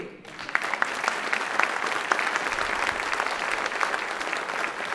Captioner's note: audience clapping